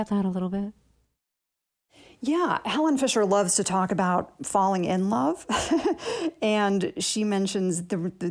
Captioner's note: laughter